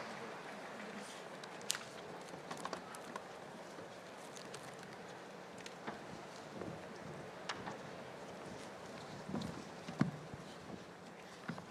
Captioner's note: applause